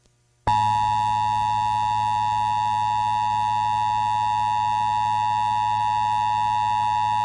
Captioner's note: beeping; beeping